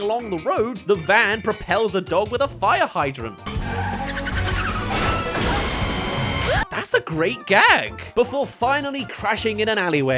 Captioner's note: yelp